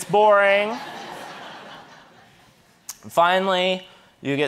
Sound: audience laughing

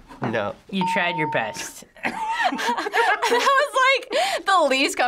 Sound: laughs

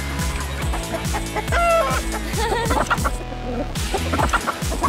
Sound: clucking

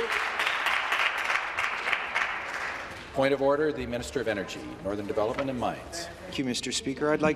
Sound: applause

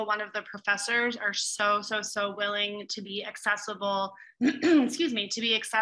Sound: clears throat

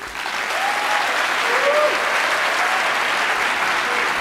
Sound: attendees applauding

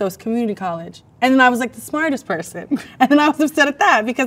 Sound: laughs

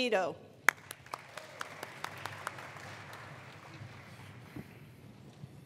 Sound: attendees applauding

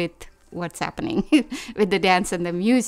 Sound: laughs

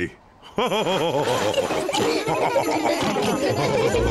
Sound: all laugh

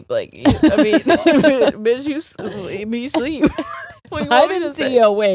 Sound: both laughing

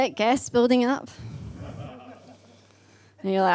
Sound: man laughs

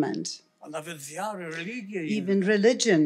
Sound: foreign language

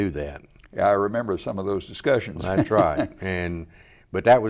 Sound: laughs

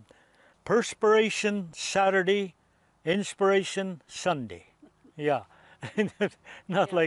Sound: laughs

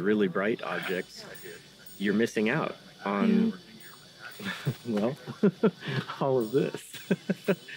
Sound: laughs

